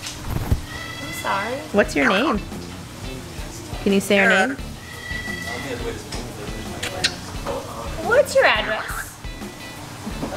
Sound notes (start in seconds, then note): 1.8 bird chirps; 6.7 lips smacking